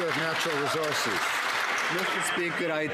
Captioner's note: some Applause